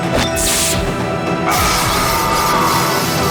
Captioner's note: screaming